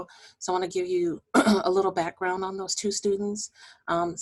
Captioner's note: clearing voice